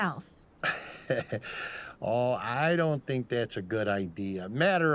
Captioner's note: chuckles